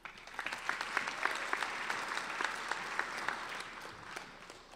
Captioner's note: applauding